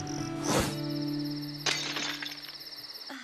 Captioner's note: glass breaks; girl sighs